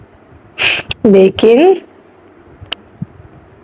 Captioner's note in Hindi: नाक से की जाने वाली आवाज़